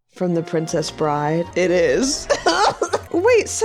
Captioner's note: guffaws